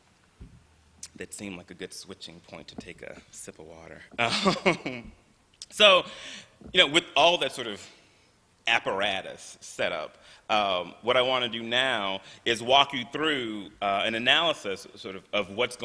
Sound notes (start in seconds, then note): 4.0 laughs